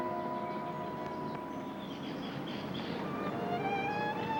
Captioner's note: birds chirping